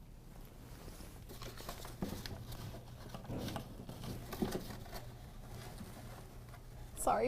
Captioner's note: rustling